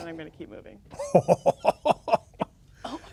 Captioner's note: laughing